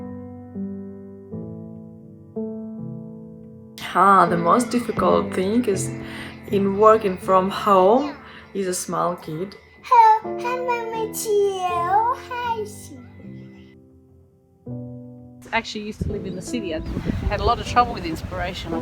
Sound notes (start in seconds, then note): 0.3 gentle music; 11.0 kiddie talk; 13.4 gentle music